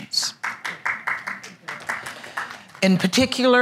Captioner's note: applause